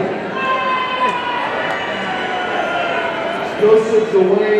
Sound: audience cheering

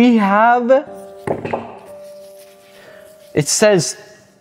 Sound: device thumps

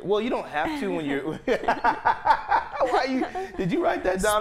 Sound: laughing

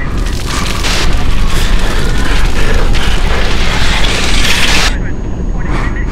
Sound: fire Burning

